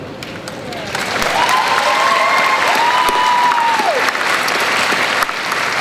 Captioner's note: cheering